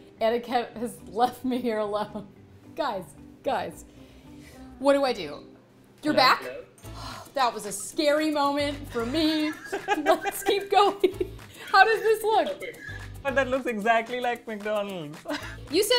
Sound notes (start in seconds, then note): 8.8 they both laugh